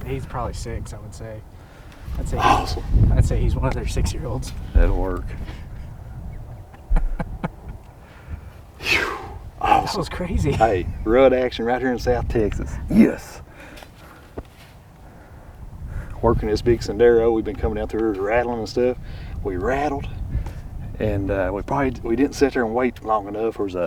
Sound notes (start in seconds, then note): 7.0 laughing; 8.8 sighs